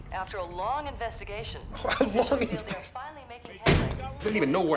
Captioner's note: mocks laughs